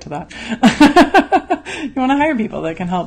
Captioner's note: laughs